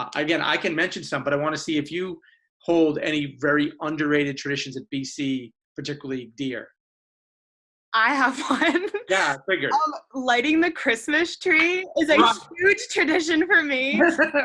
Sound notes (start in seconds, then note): 8.8 laughs; 13.9 laughs